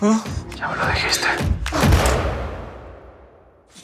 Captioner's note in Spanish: Disparo